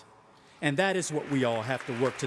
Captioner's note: audience applauding